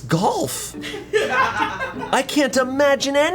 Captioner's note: colleagues laughing